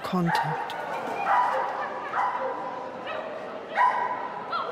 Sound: dog barking

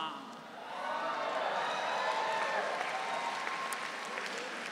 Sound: audience cheering

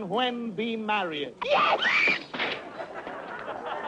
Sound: screams; crowd laughing

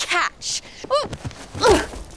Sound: PAULA wincing

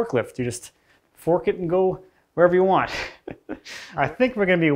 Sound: laughs

